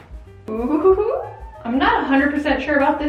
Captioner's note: laughs